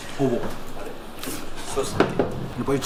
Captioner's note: laughs